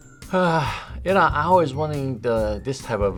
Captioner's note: sighs